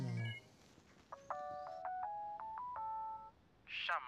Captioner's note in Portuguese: tom de chamada tocando; voz automatizada